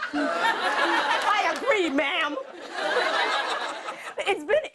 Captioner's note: laughter